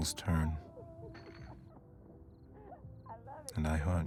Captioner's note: glass clattering